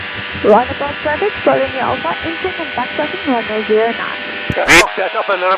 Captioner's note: radio